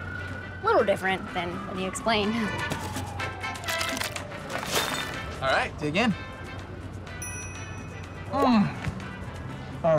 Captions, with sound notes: Little different than you explained. - All right, dig in. (cell phone chiming) Mm, oh, that's so good.